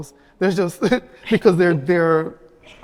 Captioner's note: giggles